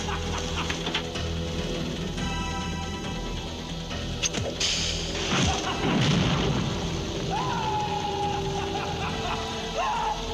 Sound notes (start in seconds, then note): 0.1 intense rhythmic music; 6.2 man laughing